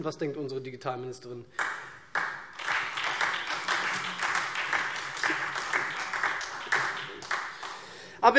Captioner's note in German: Beifall SPD